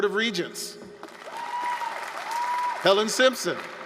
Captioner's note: applause